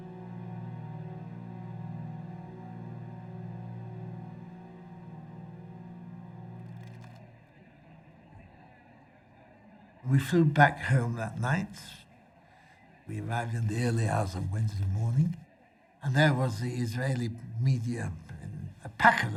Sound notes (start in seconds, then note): 0.0 dramatic music; 6.6 cameras clicking; 7.4 crowd murmuring